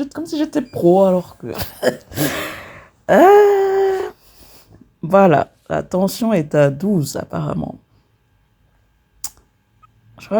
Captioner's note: laughs